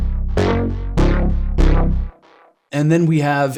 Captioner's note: electronic tones sounding